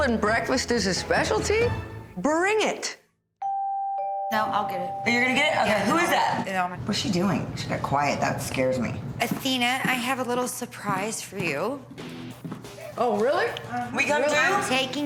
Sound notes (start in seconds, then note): 3.4 doorbell rings